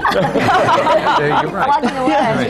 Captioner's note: laughter